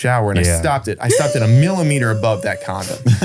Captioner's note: gasps